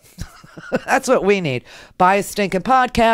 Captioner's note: laughs